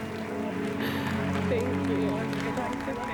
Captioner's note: applause